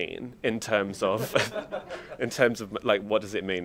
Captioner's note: audience laughs